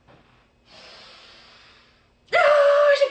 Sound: inhaling deeply

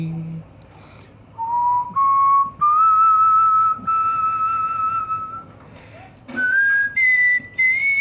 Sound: whistling

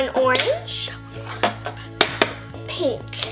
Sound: whispers

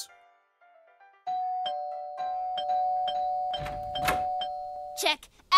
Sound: frantic Doorbell noises

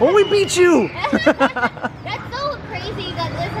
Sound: both laugh

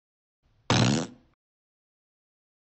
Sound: fart

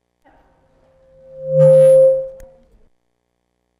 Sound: audio Feedback

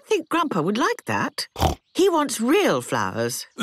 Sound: snorting

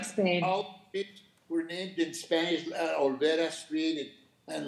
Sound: speaking faintly off mic; speaking Spanish

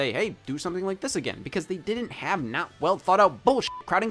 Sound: beep

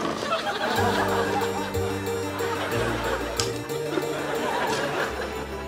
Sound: laughter; dramatic music playing

